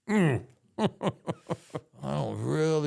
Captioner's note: Undertaker chuckling